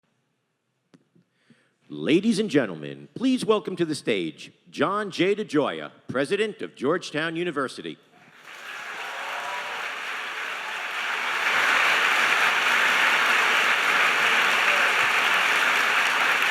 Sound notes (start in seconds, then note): 8.3 audience applauding